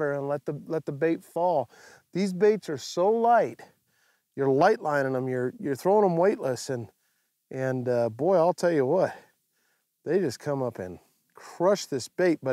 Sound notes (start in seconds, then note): none